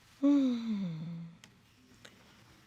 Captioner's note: sighs